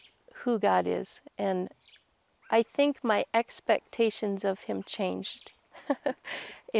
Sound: laughs

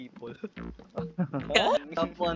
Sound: chuckles

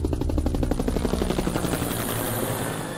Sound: helicopter whirs

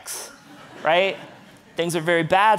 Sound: audience laughing

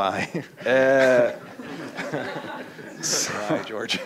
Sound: laughter

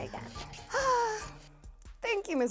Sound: sighs

